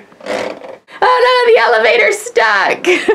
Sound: laughs

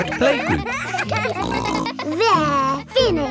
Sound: kids giggling

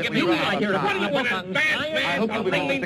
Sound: men yelling

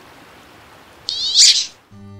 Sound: louder duck quack

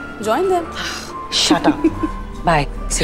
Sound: scoffs; laughing

